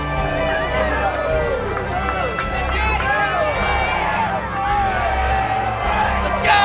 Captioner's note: cheering